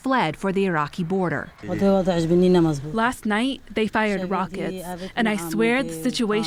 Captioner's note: through translator